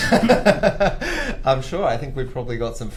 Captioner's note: laughter